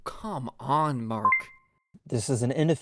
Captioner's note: ding